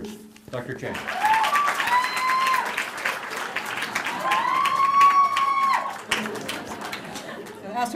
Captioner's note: applause